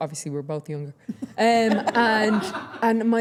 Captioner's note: everyone laughing